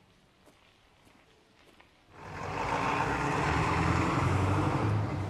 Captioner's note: engine rumbling